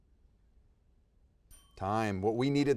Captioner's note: timer dinging